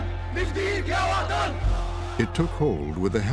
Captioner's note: crowd chanting